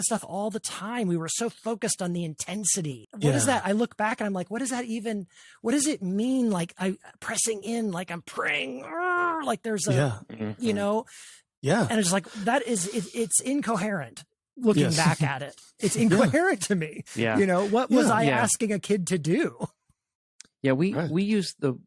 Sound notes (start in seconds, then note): 9.9 uuurgh